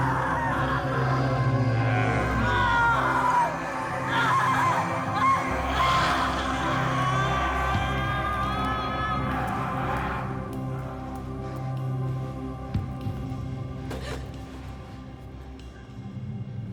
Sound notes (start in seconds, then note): 2.6 screams; 13.8 Karen gasps